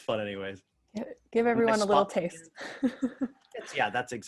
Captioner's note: laughs